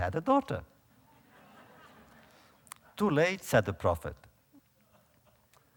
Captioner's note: audience laughter